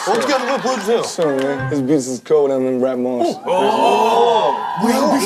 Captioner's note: laughing; speaking foreign language